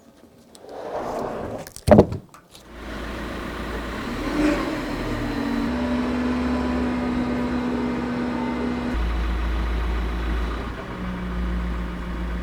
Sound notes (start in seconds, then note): 3.3 telehandler engine rumbling